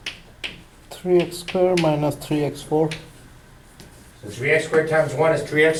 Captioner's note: voiceover